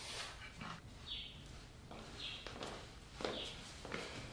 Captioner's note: birds and insects chirping